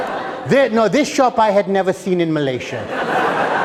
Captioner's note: laughter